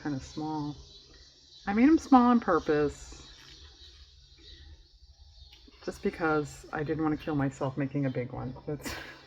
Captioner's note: laughs